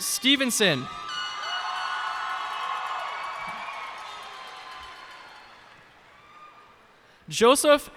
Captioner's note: cheers and applause